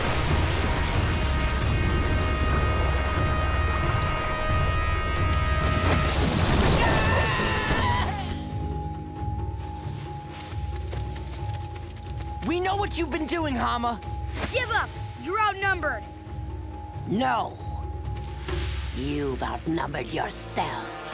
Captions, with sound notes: [screaming] We know what you've been doing, Hama! Give up! You're outnumbered! No. You've outnumbered yourselves.